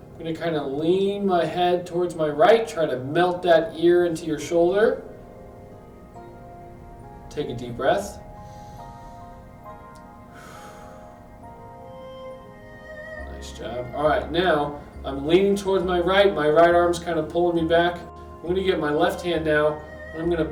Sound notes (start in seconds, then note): 8.5 inhales; 10.2 exhales